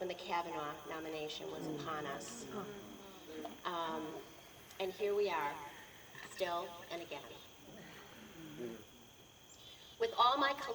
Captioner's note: audience says sad aww